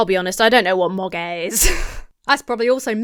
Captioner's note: laughs